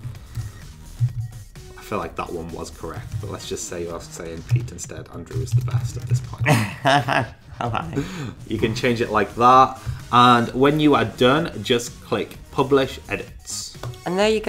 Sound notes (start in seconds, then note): 0.1 electronic music; 6.3 laughing